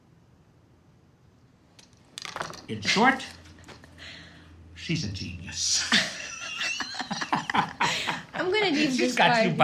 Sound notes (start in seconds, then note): 5.8 laughs